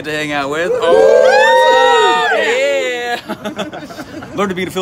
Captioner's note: cheering